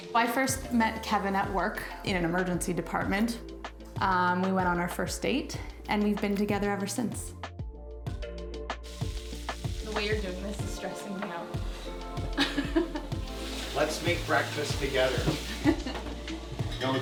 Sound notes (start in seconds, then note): 12.3 laughs loudly; 15.4 laughs